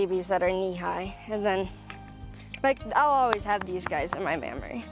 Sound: hand patting steer

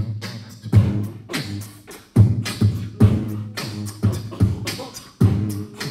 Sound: beatboxing

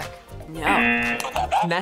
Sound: buzzer rings; buzzer

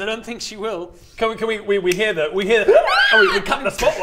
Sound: ahhhh

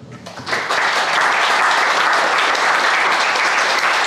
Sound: crowd applauding

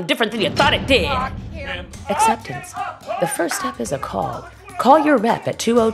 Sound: "Lock him up" chant

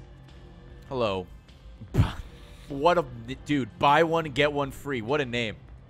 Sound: laughs

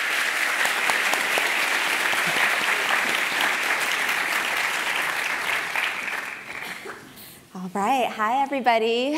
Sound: applause

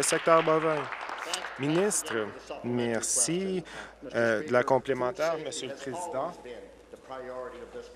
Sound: applause

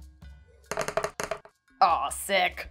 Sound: dice thudding

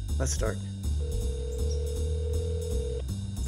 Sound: phone ringing

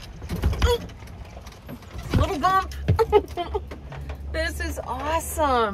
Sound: laughs

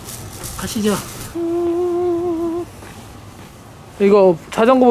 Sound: so happy that he's humming

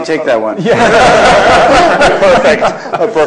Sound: laughter

